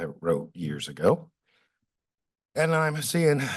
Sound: pause

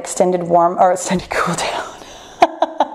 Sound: laughs

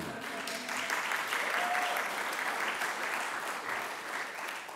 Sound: applause

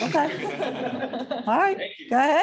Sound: laughter

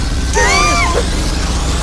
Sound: all screaming

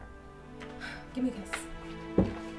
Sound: sighs

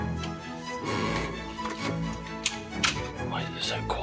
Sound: door opens, closes; whispering

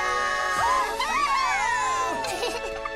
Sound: all cheering; giggling

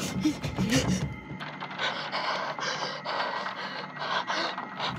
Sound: doorknob rattling

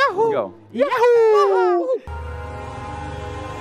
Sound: mimicking Mario

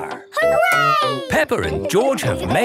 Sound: laughing

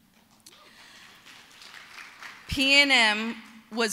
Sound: applause

